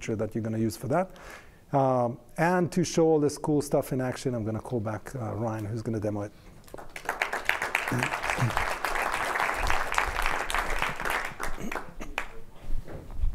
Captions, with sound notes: that you're going to use for that. To show all this cool stuff in action, I'm going to call back Ryan who's going to demo it. (applause)